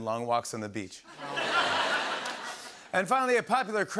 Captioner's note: laughter